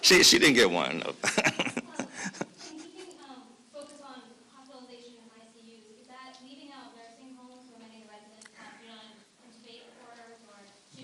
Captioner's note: laughter